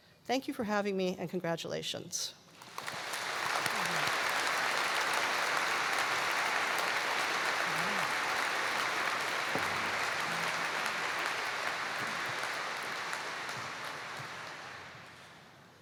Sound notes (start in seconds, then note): 2.0 applause